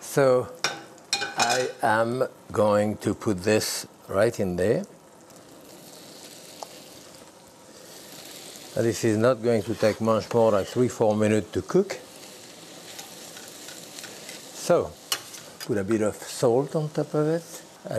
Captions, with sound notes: So...I am going to put this right in there. (sizzling) This is not going to take much more than three, four minutes to cook. So, put a bit of salt on top of it.